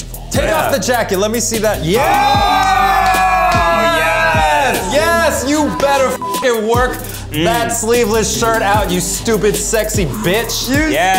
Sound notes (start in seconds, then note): 2.6 all yelling; 4.9 beeps